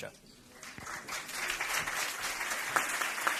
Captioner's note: applause